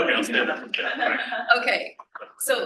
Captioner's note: laughs